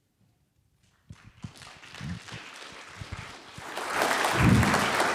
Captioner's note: audience applauding